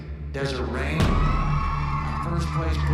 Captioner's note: cheering